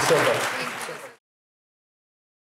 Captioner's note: applause